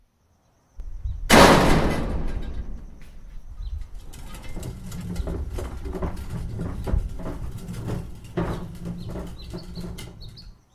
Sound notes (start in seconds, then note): 2.3 crash; 5.5 garbage can rolling